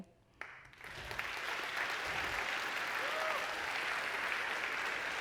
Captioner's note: audience clapping